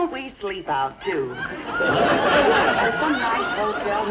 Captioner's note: audience laughs